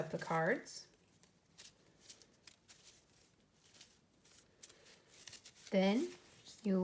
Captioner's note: mixing cards